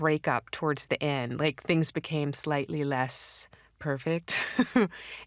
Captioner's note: laughs